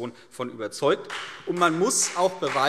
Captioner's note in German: Beifall CDU und BÜNDNIS 90/DIE GRÜNEN